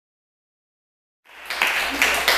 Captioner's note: applause